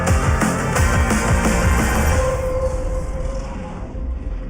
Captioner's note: cheers and applause